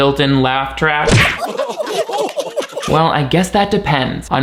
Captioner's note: thudding; people laughing